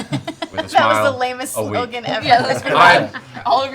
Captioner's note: laughing